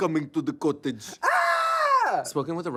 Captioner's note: screams